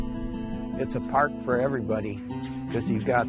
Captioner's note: voiceover